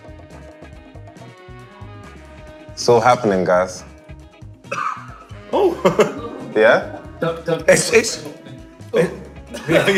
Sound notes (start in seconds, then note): 4.6 coughing; 9.5 laughter